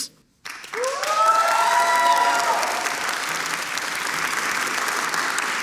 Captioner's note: audience cheering and applauding